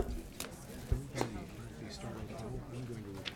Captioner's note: people chattering